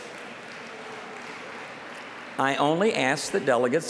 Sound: applause

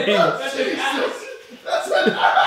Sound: audience laughing

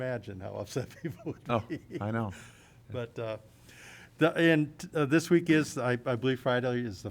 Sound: laughter

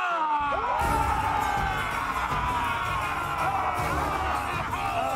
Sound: all cheering; all laughing and cheering

